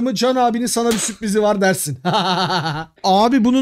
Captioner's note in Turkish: Gülüşmeler